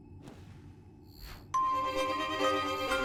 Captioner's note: electronic beeping; upbeat instrumental music